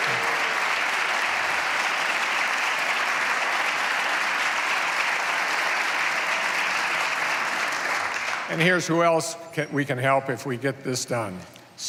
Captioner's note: applause